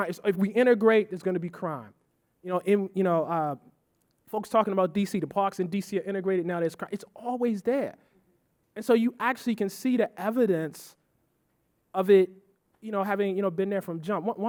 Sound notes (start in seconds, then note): none